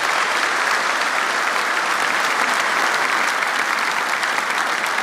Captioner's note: applause